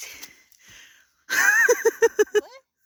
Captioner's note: laughter